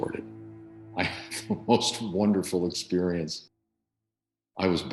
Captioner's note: laughing